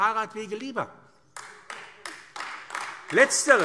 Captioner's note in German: Beifall AfD